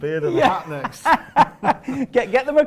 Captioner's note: laughter